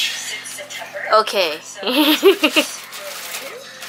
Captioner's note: laughing